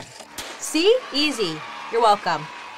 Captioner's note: crowd cheering